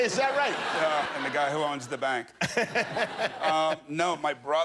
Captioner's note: laughter